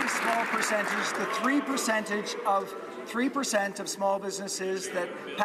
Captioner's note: some Applause